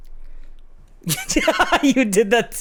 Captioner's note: laughs